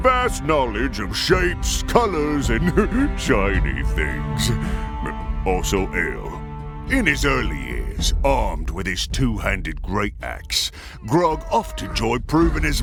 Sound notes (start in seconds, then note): 2.6 chuckle